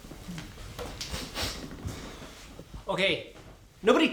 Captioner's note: sniffs